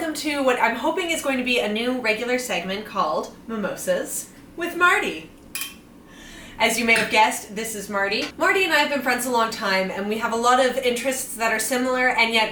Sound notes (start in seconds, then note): 6.9 glasses clink